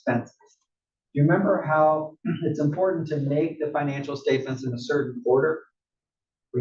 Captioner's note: cough